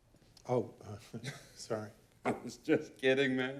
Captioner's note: chuckles